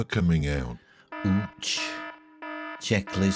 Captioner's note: alarm siren ringing